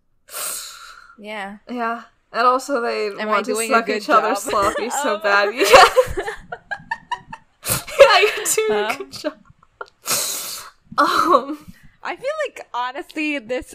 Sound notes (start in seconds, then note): 5.6 both laugh; 10.0 laughing